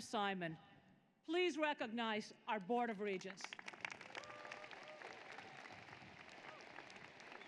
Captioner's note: applause